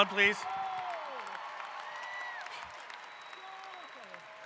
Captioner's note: applause